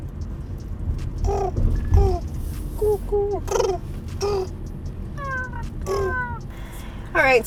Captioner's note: bird Noises